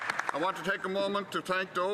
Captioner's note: some Applause